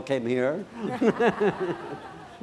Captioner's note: laughter